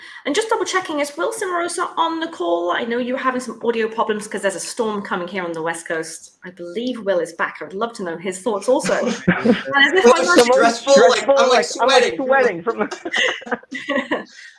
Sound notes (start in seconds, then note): 8.8 laughing